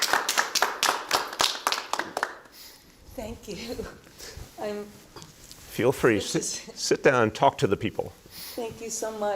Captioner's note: applause